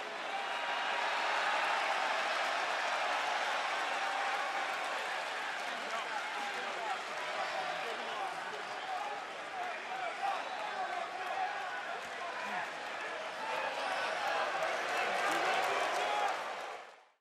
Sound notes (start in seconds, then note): 0.0 cheers and applause; 14.1 cheers and boos